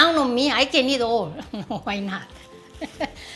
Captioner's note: laughs